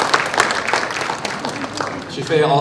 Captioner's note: applause